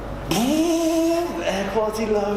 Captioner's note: machine buzzing